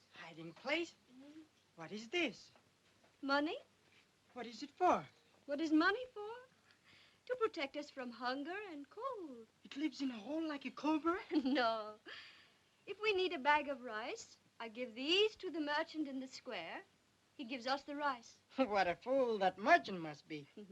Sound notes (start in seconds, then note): 11.2 laughs